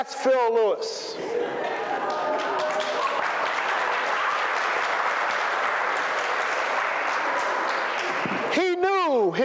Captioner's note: applause